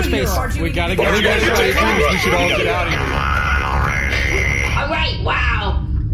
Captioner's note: assorted “Bargie, get the juck outta here noises”